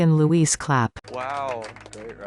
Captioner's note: applause